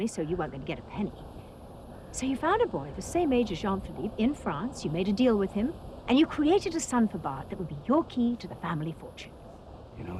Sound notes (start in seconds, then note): none